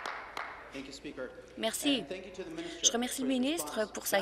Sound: applause

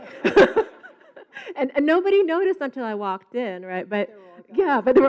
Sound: laughs

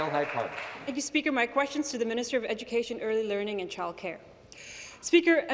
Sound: some Applause

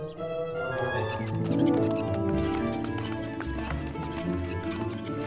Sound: wheelbarrow wheel creaks

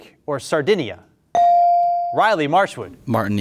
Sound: beep

